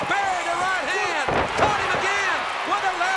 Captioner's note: crowd cheering